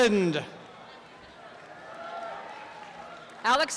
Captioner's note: applause and cheering